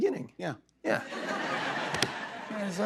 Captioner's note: laughter